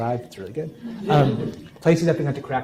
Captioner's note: laughing